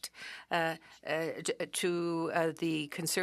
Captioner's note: speaking French